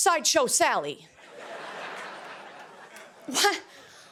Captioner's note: laughter